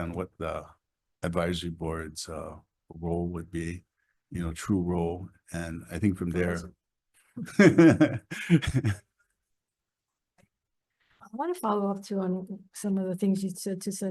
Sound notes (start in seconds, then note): 7.4 laughs